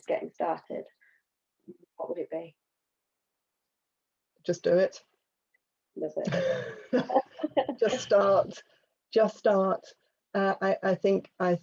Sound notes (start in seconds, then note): 7.9 both laugh